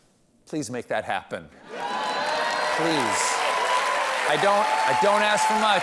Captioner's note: cheers and applause